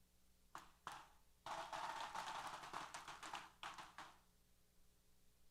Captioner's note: applause & Cheers